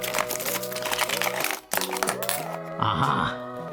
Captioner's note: packaging rustling; bright music